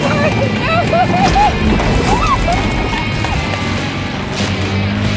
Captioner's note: cheers & claps